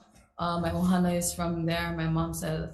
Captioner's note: speaks foreign language